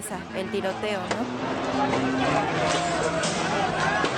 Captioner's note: people shouting, intermittent gunfire